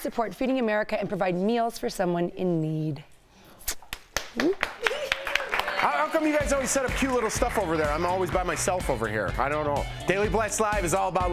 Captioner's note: laughter